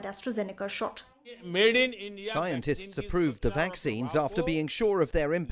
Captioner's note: through translator